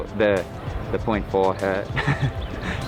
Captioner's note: laughs